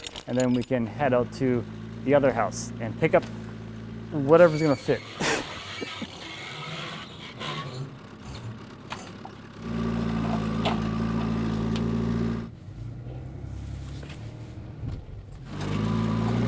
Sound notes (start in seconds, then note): 9.5 engines